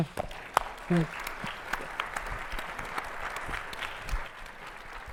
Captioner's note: attendees applauding